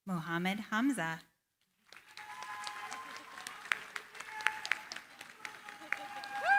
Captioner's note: cheering, applause